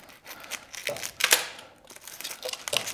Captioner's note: scratching